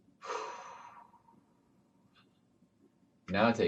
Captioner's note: exhales